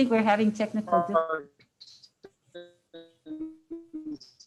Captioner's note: distorted audio